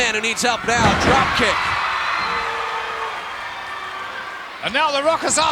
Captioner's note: audience cheering